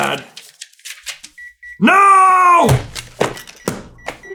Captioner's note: gentle beeping